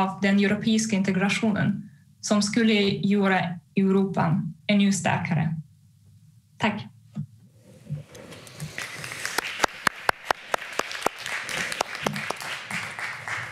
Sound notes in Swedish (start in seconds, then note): 8.4 Applåder